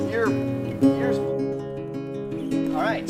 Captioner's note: guitar music; background chatter